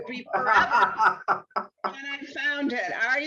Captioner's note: laughing